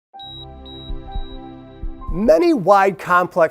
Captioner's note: piano music; heartbeats